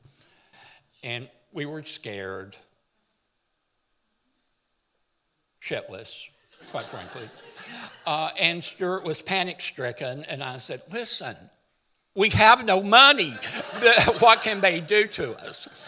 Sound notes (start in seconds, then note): 6.6 audience laughing